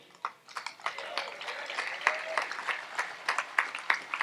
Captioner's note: audience applauds